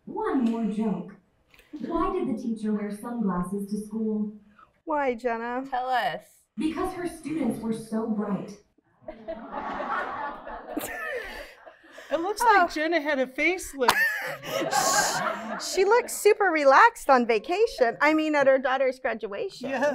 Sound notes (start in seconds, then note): 9.0 laughter; 13.8 laughter